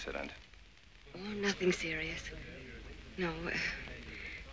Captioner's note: professors chattering